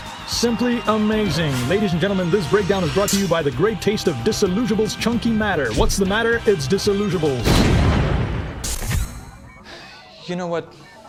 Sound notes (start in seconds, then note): 7.4 boom